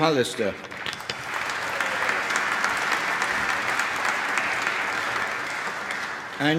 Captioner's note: applause